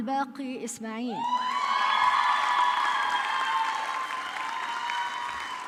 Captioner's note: audience clapping